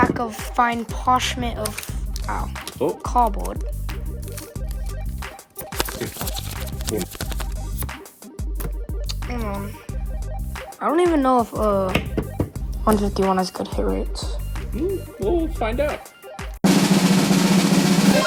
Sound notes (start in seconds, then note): 9.0 clicks tongue; 16.6 drum roll